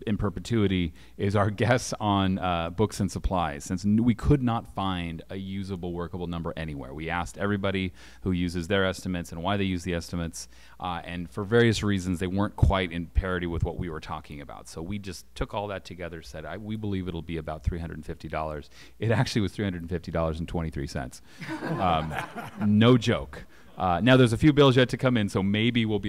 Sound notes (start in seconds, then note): 21.4 laughter